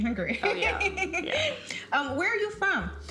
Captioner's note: chuckles